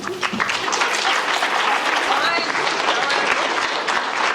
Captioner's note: audience clapping